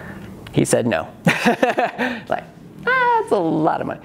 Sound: laughs

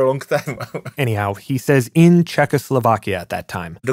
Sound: laughs

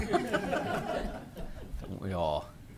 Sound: laughter

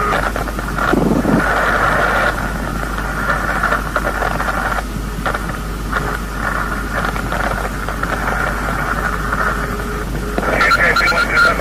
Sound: sound of parachute

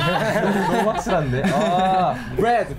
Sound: everyone laughs; speaks in foreign language

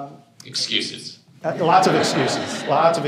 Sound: laughter

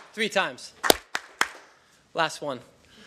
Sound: clapping

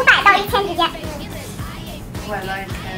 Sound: laugh secretly

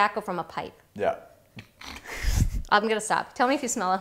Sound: laughimg

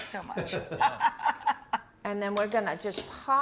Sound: laugh

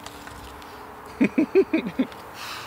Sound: he chuckles

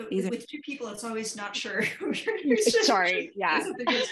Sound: laughs

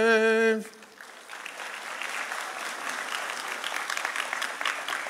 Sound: audience applauding

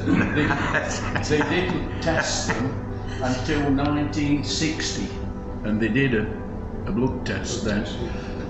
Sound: laughter

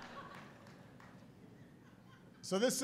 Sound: laughter

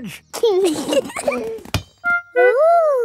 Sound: both giggling

